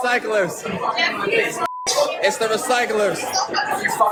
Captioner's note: echo